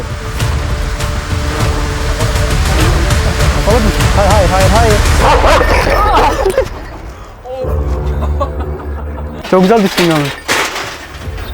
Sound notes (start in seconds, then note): 5.1 barking sound and Tension music sound; 8.4 laughs